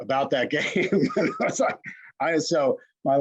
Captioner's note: laughs